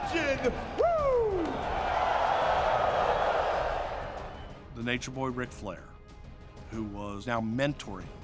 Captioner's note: applause